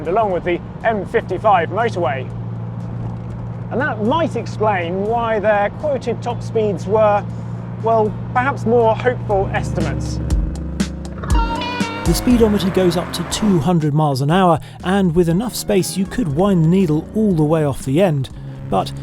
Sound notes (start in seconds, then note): 10.2 upbeat music; 11.4 car engine revving